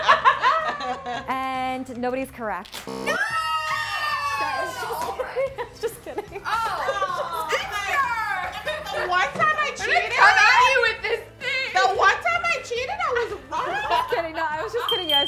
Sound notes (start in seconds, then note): 0.1 laughing; 2.8 buzzer; 3.9 groaning